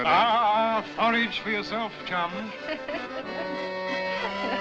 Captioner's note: laughing